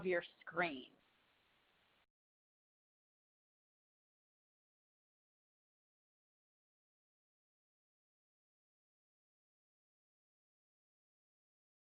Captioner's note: silence